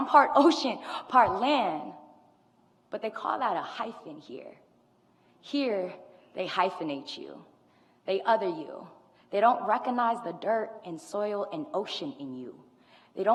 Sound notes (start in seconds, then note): none